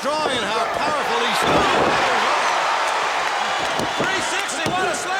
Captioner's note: audience cheers